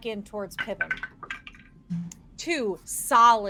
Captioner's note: dice rattling